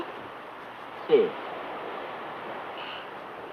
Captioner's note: villager speaks foreign language